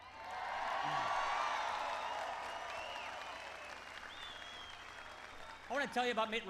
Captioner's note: applause